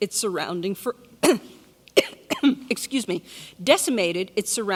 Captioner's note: coughs